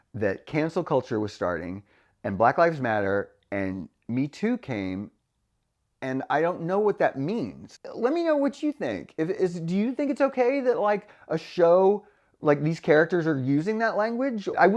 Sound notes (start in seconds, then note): none